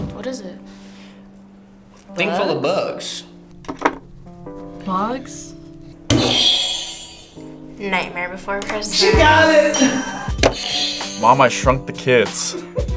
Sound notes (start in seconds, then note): 6.3 buzzer rings; 8.8 bell rings; 10.6 buzzer rings